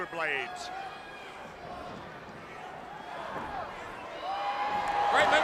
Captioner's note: crowd chatter; crowd cheering